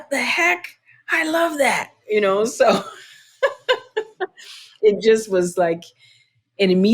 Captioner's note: laughter